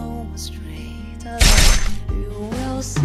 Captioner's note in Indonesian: suara pedang diayun